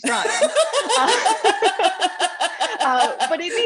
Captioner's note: laughter